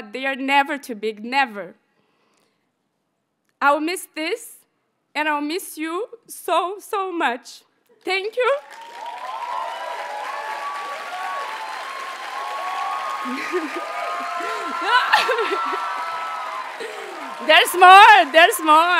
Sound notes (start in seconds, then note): 8.5 audience cheers and applauds; 13.2 graduate chuckles